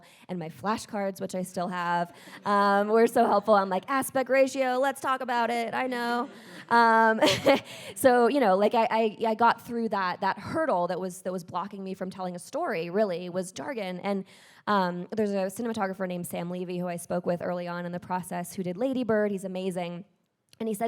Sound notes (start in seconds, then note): 6.0 audience laughs; 6.2 chuckles